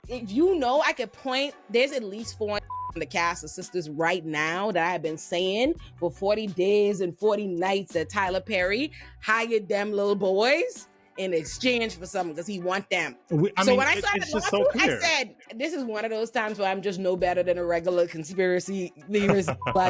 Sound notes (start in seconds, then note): 2.6 beep